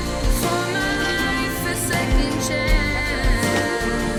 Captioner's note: door clattering